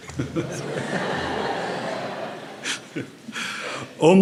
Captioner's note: laughs